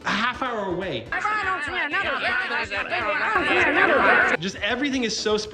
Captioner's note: Angry Kerbal noises